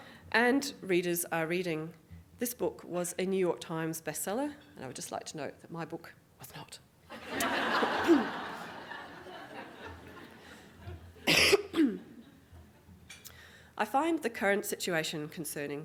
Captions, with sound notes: And readers are reading this book, was a New York Times bestseller, and I would just like to note that my book [Whispering] was not. [ Audience Laughing ] I find the current situation concerning.